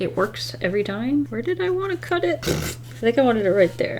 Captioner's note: laughs